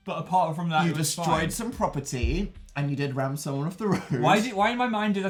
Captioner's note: laughs